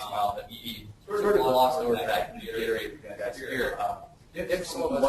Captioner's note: distorted speech